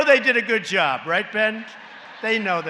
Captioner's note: laughter